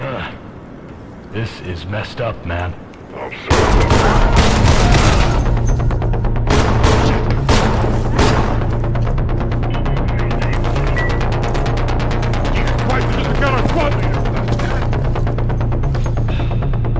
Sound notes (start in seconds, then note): 3.6 gunfire blasting; 12.4 intense music